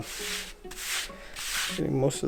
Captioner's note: fabric swish